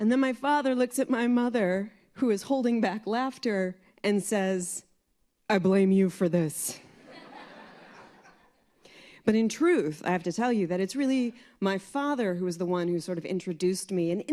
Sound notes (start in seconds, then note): 6.9 laughter